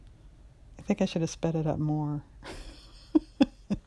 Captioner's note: laughs